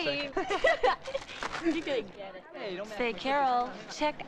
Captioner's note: both laughing